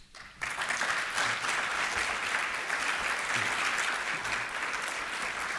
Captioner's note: applause